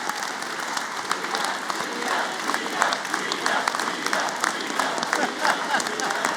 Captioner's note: chanting